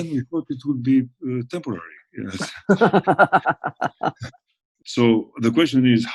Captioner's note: laughs